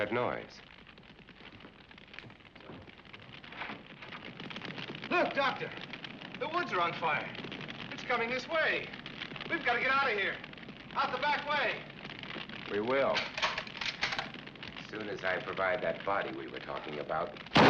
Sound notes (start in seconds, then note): 13.2 gun clicking